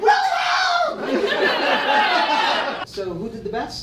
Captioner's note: audience laughs